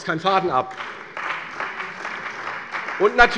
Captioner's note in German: Beifall bei der CDU